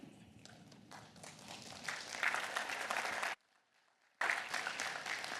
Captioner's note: applause